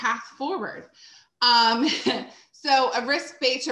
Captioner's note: chuckles